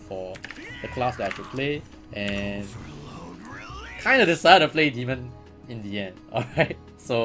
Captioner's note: laughs